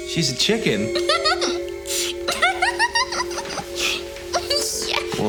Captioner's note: Laurie laughs